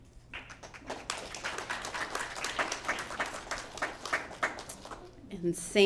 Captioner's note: applause